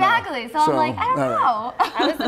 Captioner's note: laughter